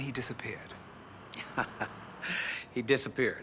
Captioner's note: chuckles